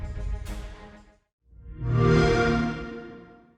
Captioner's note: xbox sound